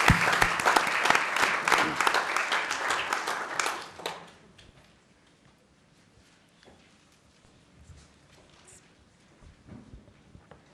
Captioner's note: applause